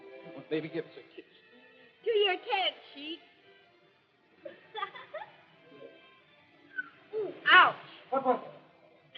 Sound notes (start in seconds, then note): 4.4 laughs; 6.6 whistles